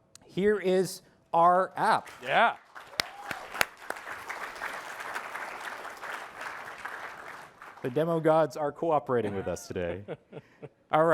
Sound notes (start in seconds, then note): 2.0 applause